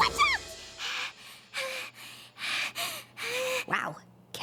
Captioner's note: breathing heavily